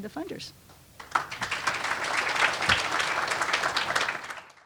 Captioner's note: applause